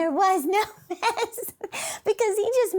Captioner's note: laughs